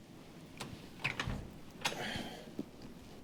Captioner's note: door Opening; exhaling; footsteps